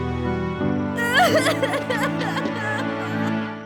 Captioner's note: crying